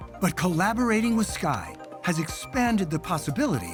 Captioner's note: none